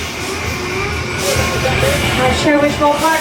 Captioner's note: alarms sounds